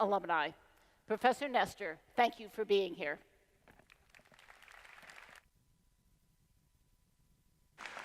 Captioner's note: applause